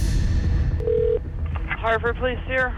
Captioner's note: dramatic music; phone ringing